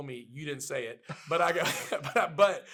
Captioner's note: laughs